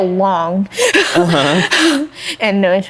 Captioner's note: laughing